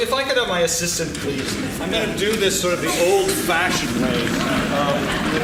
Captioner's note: laughing